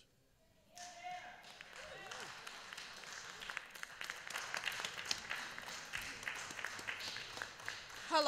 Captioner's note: applause